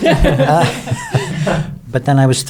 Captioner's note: everyone laughing